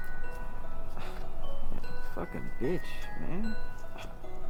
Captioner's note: scoffs